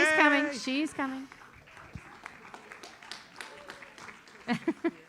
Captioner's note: audience applauds